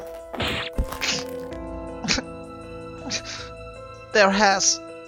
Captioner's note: sobbing